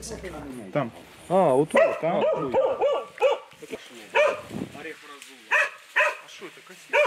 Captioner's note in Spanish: Ladridos-conversación indistinta